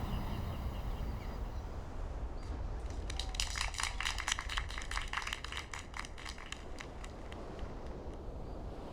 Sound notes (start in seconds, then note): 1.7 waves crashing and seagulls; 2.8 applause